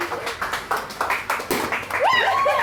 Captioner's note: pop!